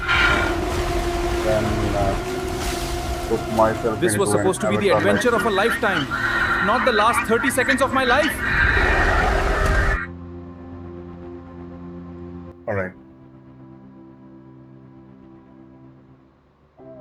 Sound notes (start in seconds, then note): 8.6 radio screeching